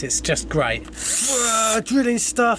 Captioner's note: drill whirring